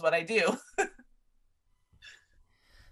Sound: chuckles

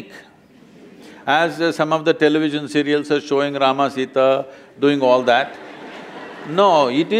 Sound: laughter; laughter

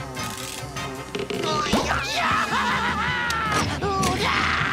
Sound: laughing

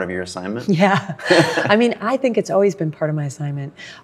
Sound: laughs

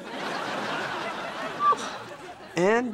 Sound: squealing

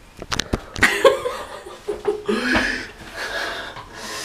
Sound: laughs

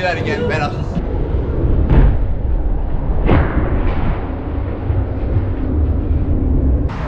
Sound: slow Motion Noises

